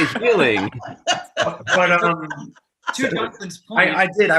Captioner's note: actors laughing